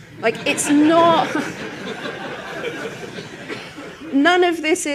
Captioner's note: laughter